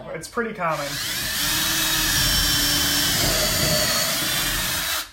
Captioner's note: drill whirring